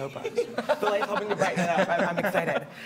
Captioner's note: laughing